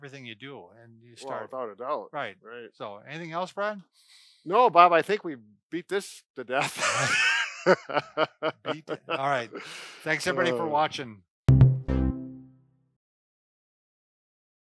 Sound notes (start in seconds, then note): 6.6 laughing; 11.5 electronic beat